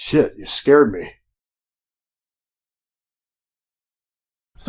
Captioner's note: silence